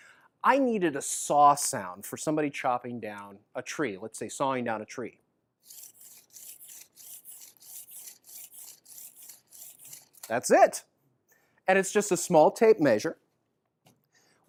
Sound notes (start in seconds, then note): 5.6 sawing sound